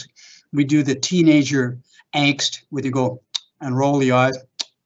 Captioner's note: tongue clicking sound